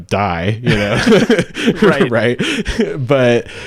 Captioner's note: laughing